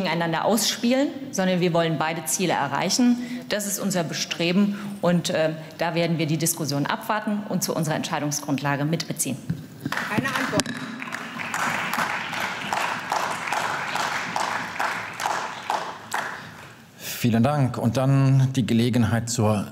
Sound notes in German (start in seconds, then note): 9.8 Beifall